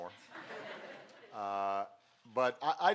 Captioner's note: laughter